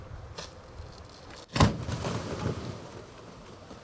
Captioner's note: wet flump